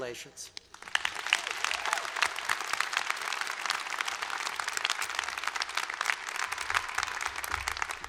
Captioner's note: applause